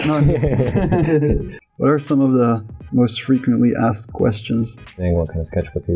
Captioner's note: laughter